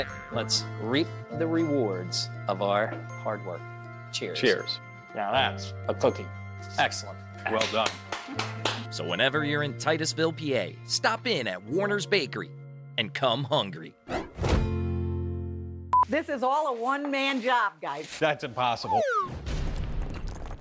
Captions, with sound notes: Let's reap the rewards of our hard work. Cheers. - Cheers. - Now that's a cookie. Excellent. Well done. (claps) So whenever you're in Titusville, PA, stop in at Warner's Bakery and come hungry. - This is all a one-man job, guys. - That's impossible.